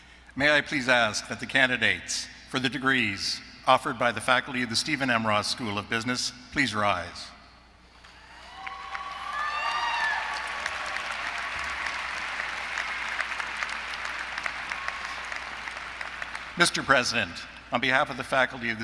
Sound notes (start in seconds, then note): 8.2 applause